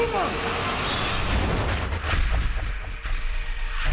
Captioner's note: gunshot